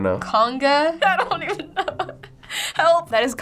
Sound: laughing

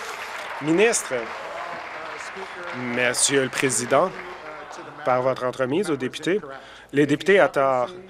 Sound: applause

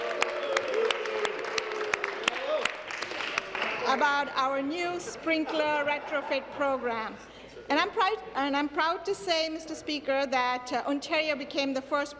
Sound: applause

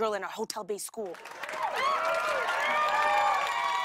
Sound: cheers and applause

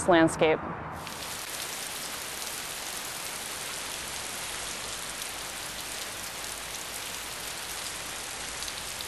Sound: sound of falling rain

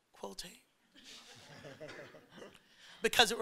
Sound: all chuckling

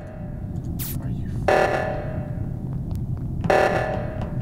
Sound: meltdown buzzer; footsteps

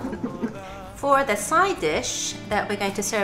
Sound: laugh

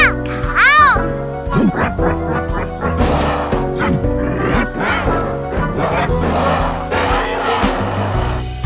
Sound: grunt gibberish

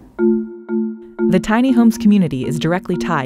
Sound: voiceover

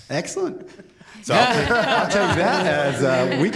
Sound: laughter

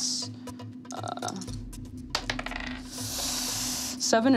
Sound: dice rattling

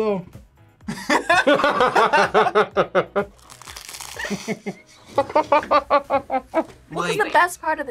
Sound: both laugh

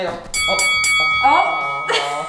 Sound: fighting bell rings

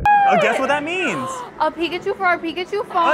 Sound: gasps

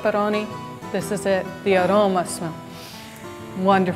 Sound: inhales

